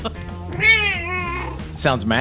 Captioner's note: cat meows